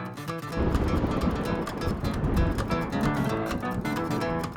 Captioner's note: upbeat guitar music; thunder crashes; upbeat music